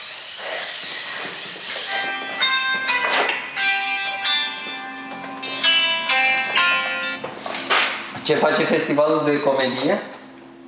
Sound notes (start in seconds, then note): 2.0 phone rings